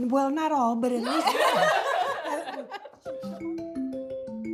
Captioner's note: laughing